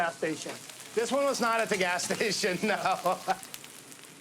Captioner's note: laughing